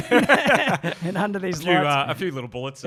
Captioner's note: laughs